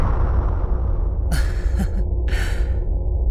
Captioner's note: chuckle